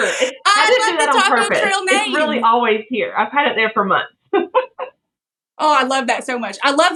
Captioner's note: laugh